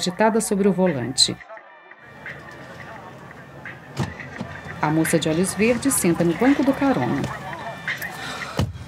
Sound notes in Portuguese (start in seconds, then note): 3.8 Som de porta de carro